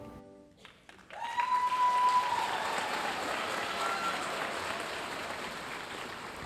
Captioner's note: audience cheering and applauding